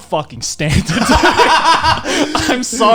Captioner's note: laughing